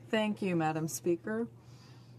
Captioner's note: speaking French